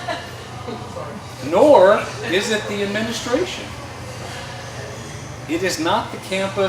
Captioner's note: laughter